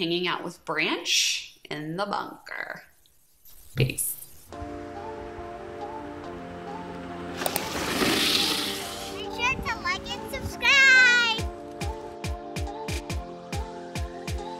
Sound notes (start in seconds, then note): 5.1 upbeat music; 7.4 car skids